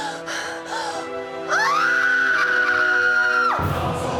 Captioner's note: gasps; panting; screaming